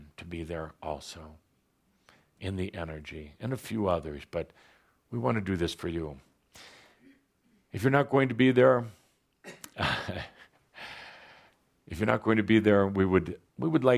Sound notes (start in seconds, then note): 9.4 chuckles